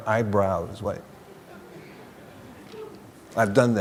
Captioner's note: laughter